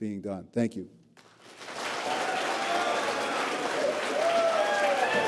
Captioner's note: applause